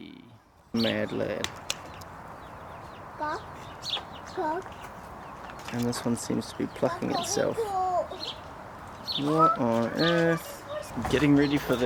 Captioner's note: kid speaking in Russian